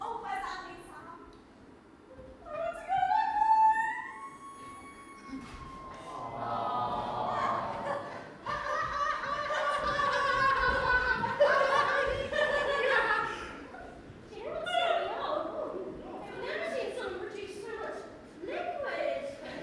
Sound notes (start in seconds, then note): 4.6 audience awwwws; 4.9 cries; 7.3 Glinda and Gail laugh awkwardly